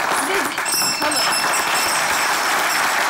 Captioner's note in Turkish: Zil sesi